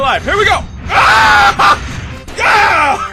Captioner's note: screams